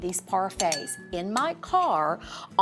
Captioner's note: spoon clanging